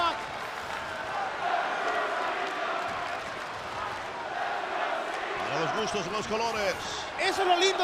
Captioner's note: applause